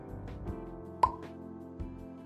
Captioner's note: pop